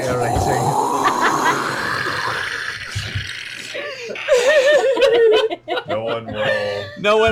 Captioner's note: swirling